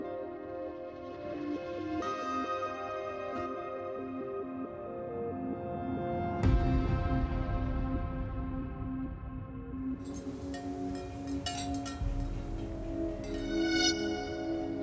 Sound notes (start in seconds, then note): 0.1 pensive music; 10.0 wind chimes jingling; 12.8 sharp string tone